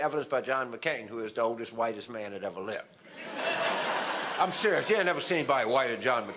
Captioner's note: audience laughter